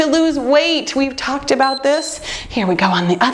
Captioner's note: timer beeps